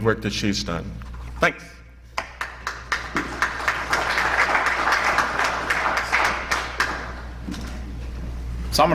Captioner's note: applause